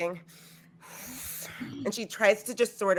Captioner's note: sucking air